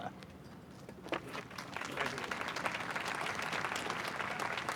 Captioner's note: applause